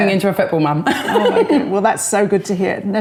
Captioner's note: laughing